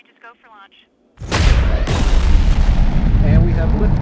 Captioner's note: rocket boosters blasting